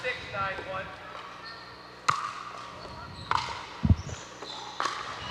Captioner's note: ball bouncing